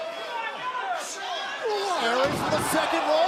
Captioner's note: crowd chatter